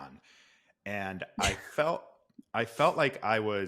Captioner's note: laughs